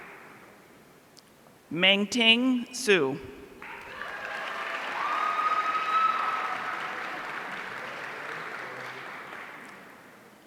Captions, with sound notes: Mengting Su. (audience cheering)